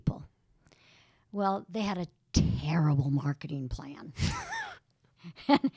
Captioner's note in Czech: Chichotá se